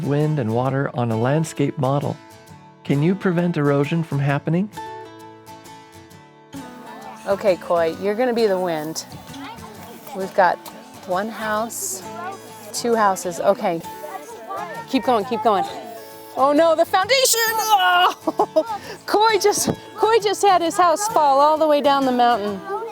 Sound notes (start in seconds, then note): 17.2 laughs; 17.6 grunts